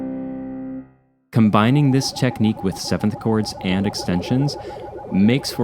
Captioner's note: sci-fi pulsing